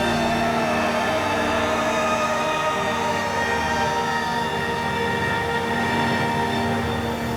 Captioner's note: screaming